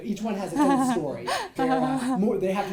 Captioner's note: laughs